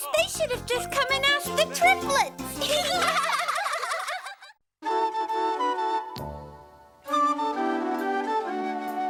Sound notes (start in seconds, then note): 2.6 giggling; 4.8 playful music